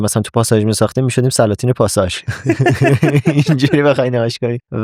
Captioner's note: laughs